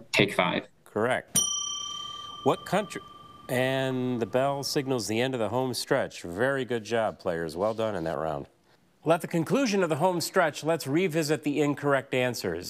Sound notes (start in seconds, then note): 1.3 bell dings